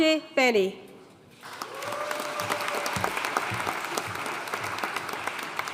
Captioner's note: audience cheering and applauding